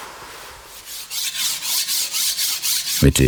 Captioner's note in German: Schleifgeräusche